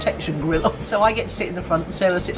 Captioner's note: laughs